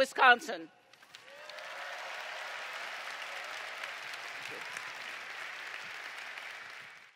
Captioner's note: applause